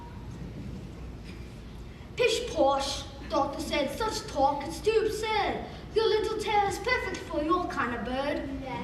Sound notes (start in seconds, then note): 2.3 as Doctor Dake with accent